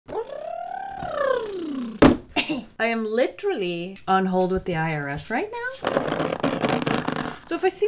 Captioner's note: nails scrapping on cardboard